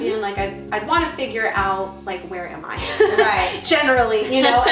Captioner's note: laughing